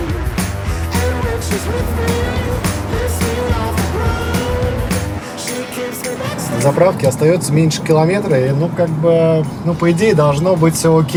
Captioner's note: applause